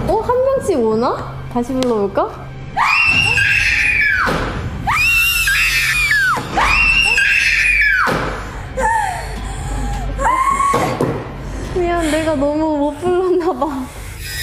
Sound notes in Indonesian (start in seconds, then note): 4.8 Suddenly screams